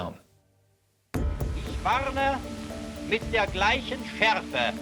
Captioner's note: archive, German speech